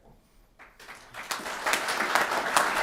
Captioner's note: applause